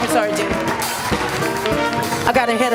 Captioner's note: applause